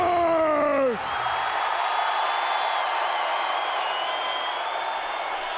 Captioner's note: audience cheering